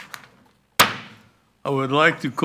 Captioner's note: gavel banging